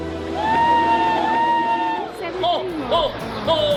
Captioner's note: crowd cheering